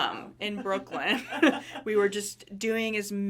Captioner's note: laughing